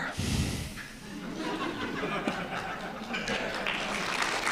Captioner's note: audience clapping